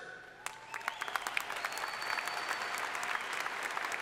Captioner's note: crowd applauding